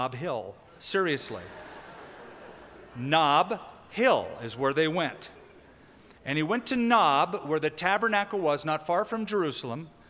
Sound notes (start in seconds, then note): 1.2 laughter